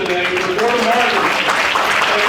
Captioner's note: audience applauding; audience applauding drowns out